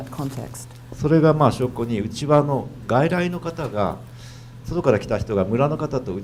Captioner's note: speaking foreign language